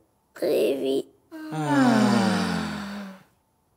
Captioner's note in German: erleichtertes Aufatmen